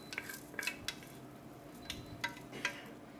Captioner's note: spoon scrapes